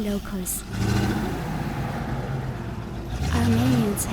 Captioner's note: truck noise